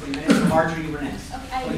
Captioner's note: coughing